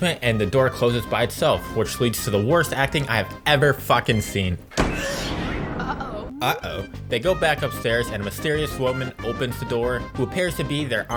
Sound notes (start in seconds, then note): 4.7 door slam